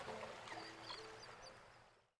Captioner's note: birds chirping